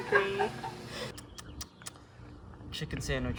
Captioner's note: clicks tongue